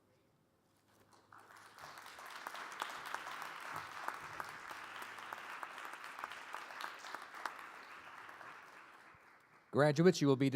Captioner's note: applause